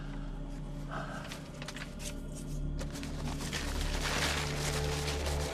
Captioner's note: Homer sighs; ominous music